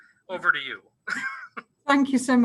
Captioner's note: coughing